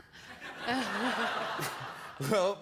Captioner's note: laughter